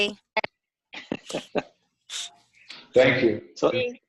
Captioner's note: participants chuckle